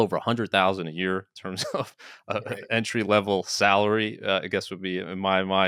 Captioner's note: chuckles